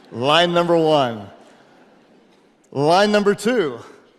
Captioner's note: audience laughing